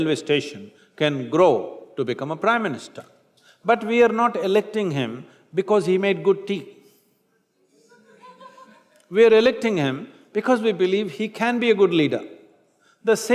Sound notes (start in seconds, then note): 7.6 laughter